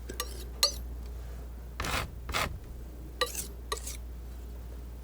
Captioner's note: scratching